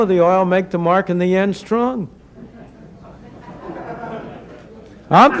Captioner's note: laughter